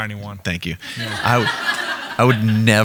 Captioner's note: audience laughing